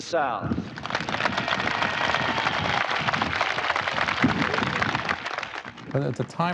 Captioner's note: cheering; clapping